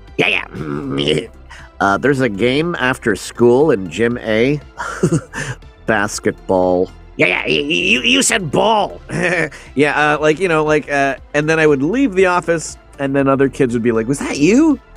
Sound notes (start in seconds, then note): 0.2 Beavis voice; 2.0 Butt-Head voice; 4.8 laugh; 7.1 Beavis voice; 9.1 laugh